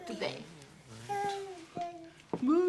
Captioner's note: Lucia babbling, spluttering